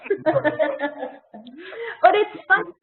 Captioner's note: laughter